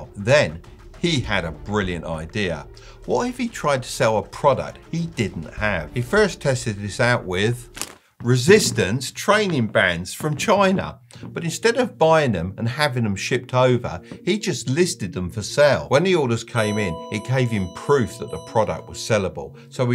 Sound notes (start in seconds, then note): 16.6 messages dinging